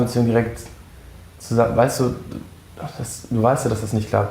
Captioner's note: Stammelt